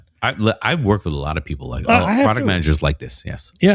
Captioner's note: uh